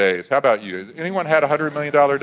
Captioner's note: audience laughs